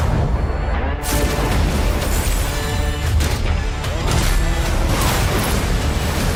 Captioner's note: mechanical clinking